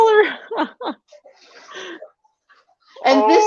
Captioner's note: laughs